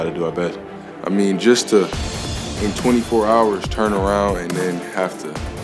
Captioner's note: voiceover